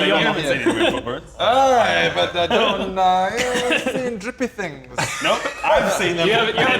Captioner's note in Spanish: lamentos incoherentes